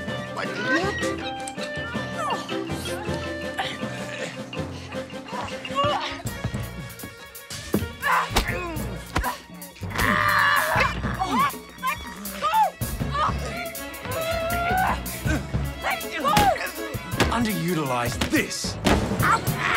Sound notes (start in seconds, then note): 9.1 grunts